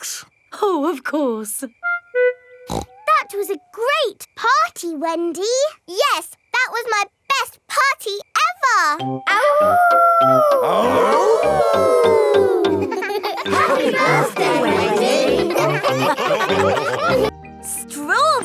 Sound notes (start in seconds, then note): 2.7 snorts; 9.6 howling; 11.5 all howling